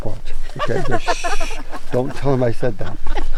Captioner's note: person hushing